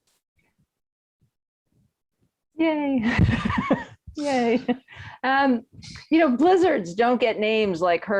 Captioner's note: laughs